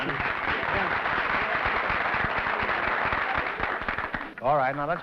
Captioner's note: applause